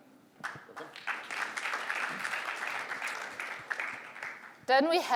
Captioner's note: applause